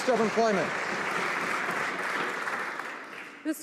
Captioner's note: some Applause